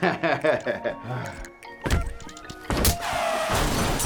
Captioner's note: laughing; punch and kick thudding; car crashing; glass shattering